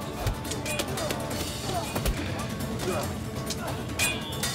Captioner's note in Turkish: Kılıç sesleri